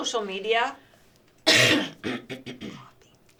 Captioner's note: coughs